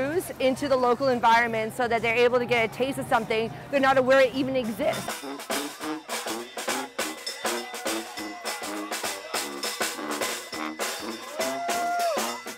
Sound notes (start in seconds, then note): 5.2 upbeat jazz music; 7.0 crowd cheering